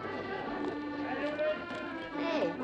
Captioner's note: crowd chattering